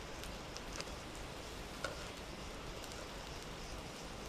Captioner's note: none